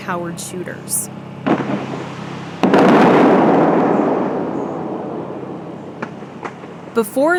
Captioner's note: banging cannon sound, water splashing